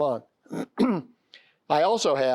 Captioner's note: clears throat